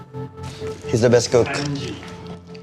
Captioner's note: in English